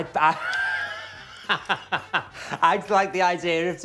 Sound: laughing

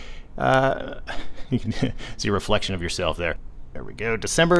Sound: chuckles

